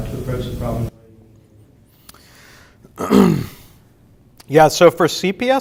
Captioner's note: microphone turns off cutting off speech